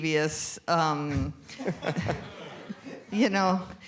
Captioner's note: laughter